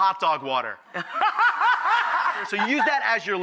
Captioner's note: Rachael laughs